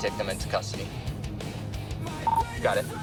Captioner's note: radio beeps